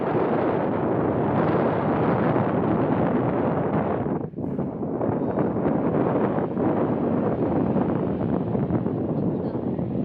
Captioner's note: wind blowing